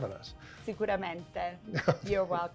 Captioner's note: speaks in a foreign language